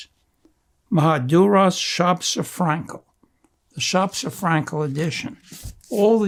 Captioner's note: non-english